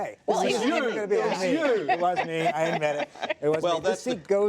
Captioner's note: laugher